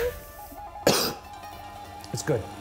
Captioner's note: coughs